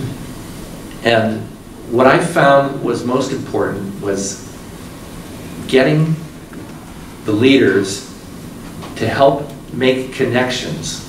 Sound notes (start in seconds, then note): none